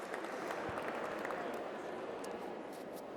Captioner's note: applause